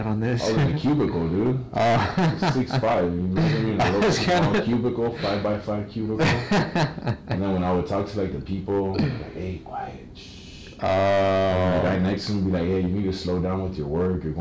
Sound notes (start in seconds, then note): 1.8 laughing; 6.2 doctor laughing; 10.1 shushing